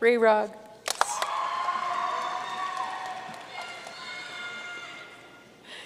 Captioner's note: audience cheering and applauding